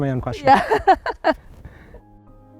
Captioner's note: laughter